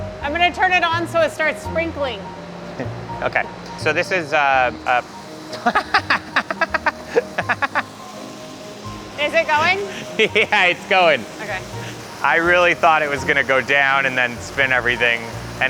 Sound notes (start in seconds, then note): 4.6 water sprinkling; 5.5 laughing